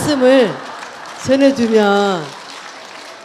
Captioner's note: audience Laughter